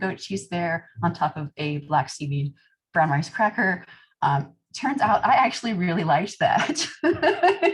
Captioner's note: laughter